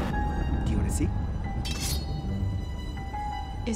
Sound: sword scrapes

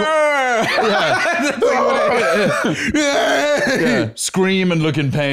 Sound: both wailing; crying out

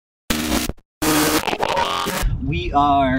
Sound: radio static

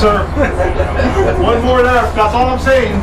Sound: laughs

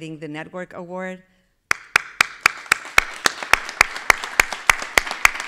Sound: everybody clapping

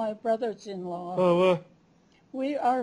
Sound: non-english speech

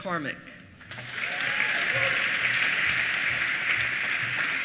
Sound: applause

